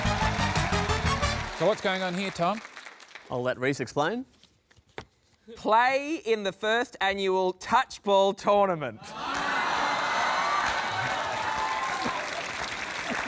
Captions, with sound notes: So, what's going on here, Tom? I'll let Rhys explain. "Play in the first annual touchball tournament." (CHEERING, APPLAUSE)